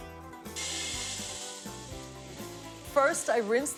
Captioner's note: sound of peas hitting the pot